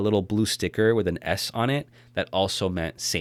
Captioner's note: none